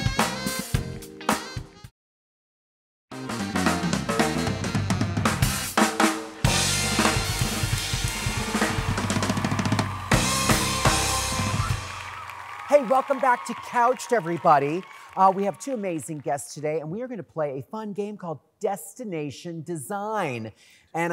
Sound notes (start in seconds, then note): 3.1 upbeat jazz music; 8.7 audience cheers